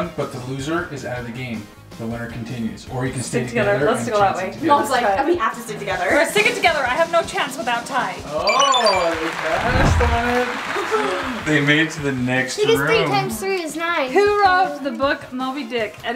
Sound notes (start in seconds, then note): 8.4 high-pitched beeps; 8.4 applause